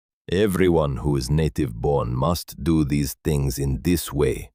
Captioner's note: speaking with authority